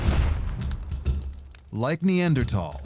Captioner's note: fire crackling